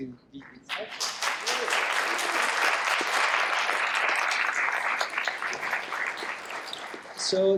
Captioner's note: applause